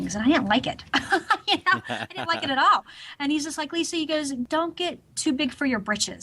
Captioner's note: both laughs